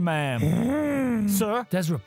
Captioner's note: happy grunt